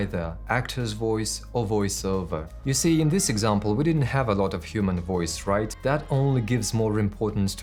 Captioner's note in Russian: войсовер